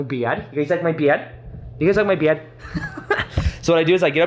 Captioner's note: chuckles